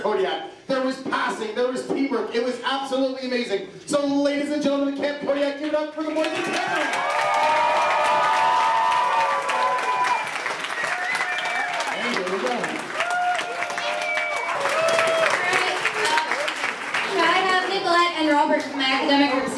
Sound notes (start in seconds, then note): 7.2 students cheering